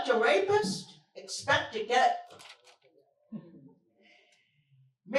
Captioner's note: silence